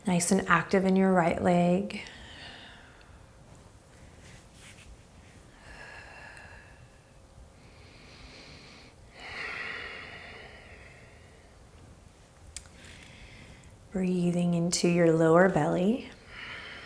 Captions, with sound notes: Nice and active in your right leg. (inhaling deeply) (exhaling strongly) Breathing into your lower belly.